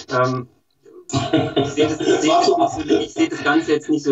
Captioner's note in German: lachen